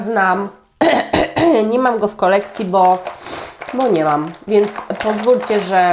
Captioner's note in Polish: kaszel